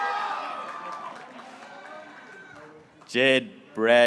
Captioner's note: graduates cheering